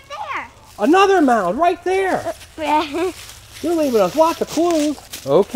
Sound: voiceover

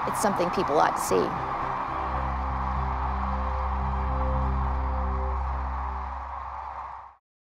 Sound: crane song

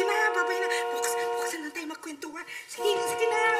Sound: car horn continues honking

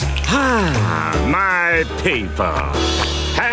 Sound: sighing

